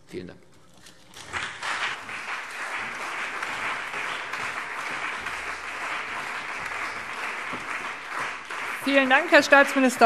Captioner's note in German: Beifall CDU und BÜNDNIS 90/DIE GRÜNEN